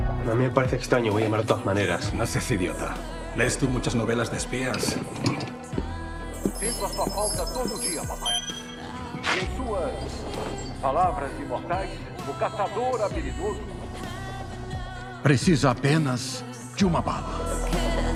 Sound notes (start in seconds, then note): 4.2 scoffs; 6.6 sotto Voce in English